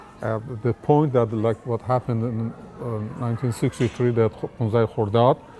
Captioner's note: foreign language